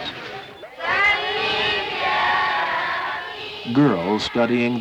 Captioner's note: young girls reciting prayers